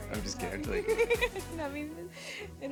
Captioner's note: laughter